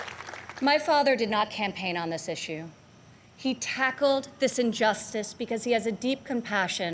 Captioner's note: applause